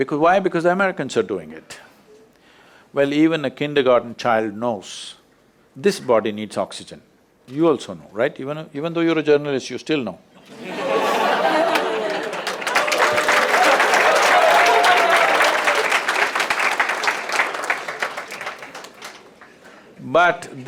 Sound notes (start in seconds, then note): 15.7 laughter/Applause